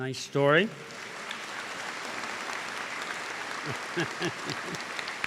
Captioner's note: applause